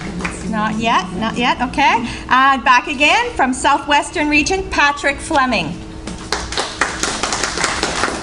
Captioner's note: applause